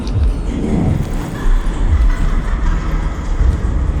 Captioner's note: distant laughter